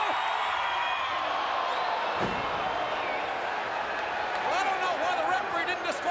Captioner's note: crowd groaning